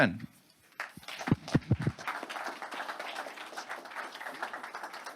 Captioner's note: audience applauds